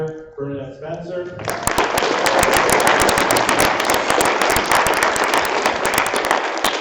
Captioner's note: applause